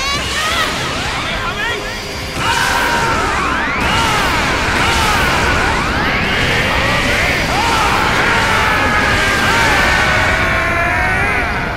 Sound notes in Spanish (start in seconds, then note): 0.1 Gritos; 2.3 Gritos; 7.7 Gritos de todos